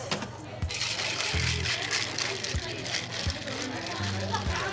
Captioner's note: ice rattling